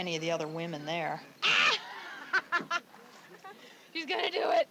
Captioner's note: laughter